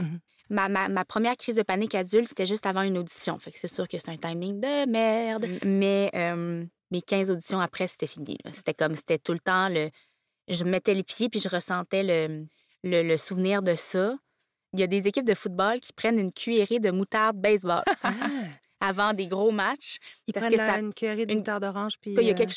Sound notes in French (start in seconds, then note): 17.8 rires et exclamations